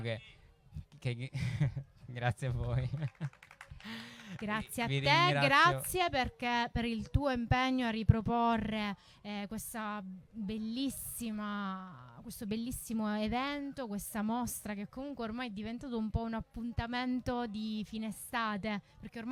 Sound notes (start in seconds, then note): 2.5 applause